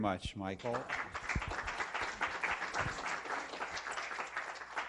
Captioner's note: applause